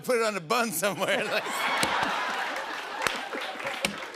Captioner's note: laughter